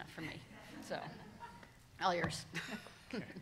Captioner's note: all laughing